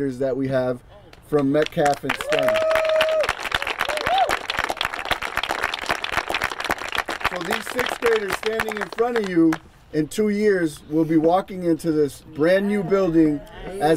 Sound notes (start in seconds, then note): 1.6 crowd applauding; 2.0 crowd cheering